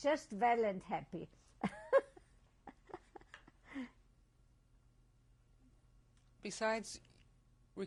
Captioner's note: laughs